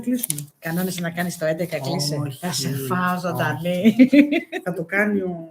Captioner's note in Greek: γέλια